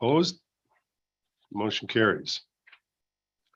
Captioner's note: silence